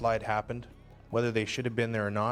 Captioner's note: voiceover